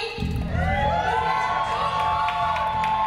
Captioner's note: audience cheers